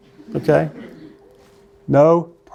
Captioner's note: laughter